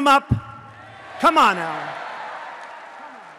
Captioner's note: applause